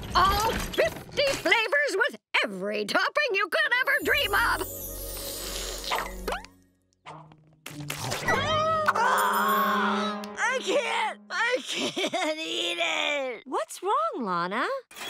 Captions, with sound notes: All fifty flavors, with every topping you could ever dream of. [screaming] I can't! I can't eat it! What's wrong Lana?